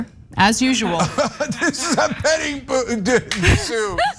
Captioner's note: laugh